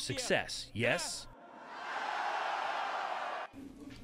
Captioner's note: cheering and applause